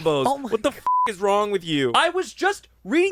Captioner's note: beep